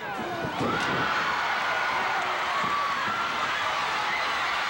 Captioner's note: audience cheering